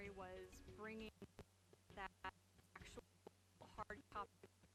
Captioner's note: stuttering audio